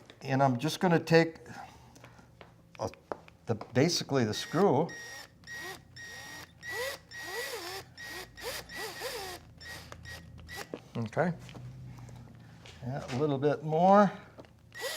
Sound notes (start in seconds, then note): 4.2 screwdriver beeps and whirs; 14.6 screwdriver whirs and beeps